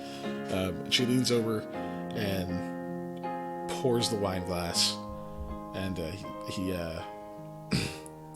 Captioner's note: clears throat